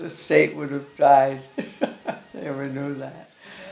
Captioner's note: laughing